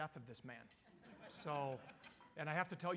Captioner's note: audience laughing